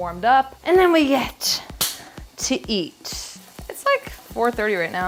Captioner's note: clap